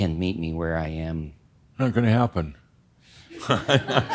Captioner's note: laughter